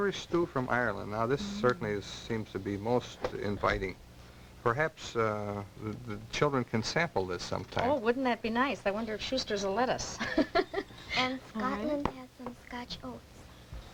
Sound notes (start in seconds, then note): 10.1 laughter